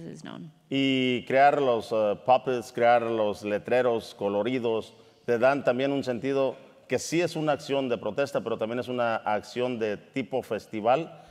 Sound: speaking in Spanish

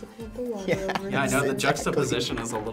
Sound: laughs

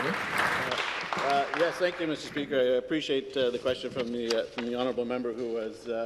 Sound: some Applause

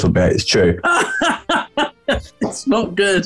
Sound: laughing

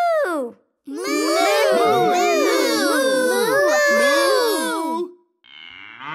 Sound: mooing

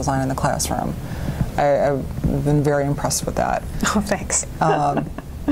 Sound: laughs

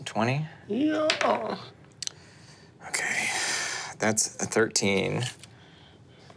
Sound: die taps table

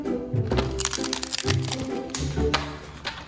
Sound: crunching

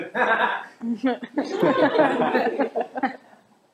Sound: crowd laughs

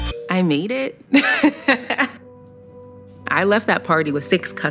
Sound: laughs

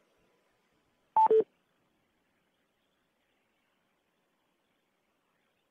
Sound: electronic beeping

